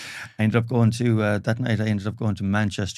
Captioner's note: both laughing